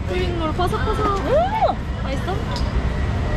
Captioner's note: cheers